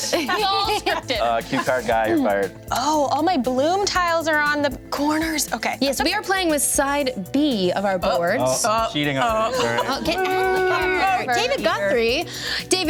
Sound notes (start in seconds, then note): 9.1 murmurs; 10.6 several speakers laugh and drown the others out